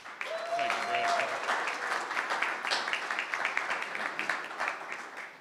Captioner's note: crowd cheering and clapping